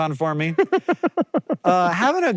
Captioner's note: JOHN laughs